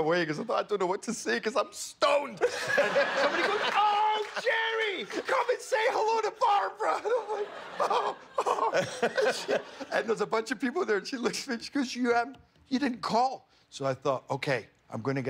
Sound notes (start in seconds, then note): 6.9 laughter